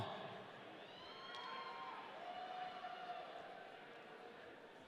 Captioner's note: audience cheering